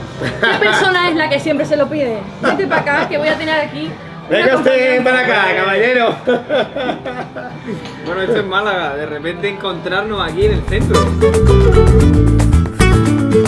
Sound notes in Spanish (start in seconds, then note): 6.0 risas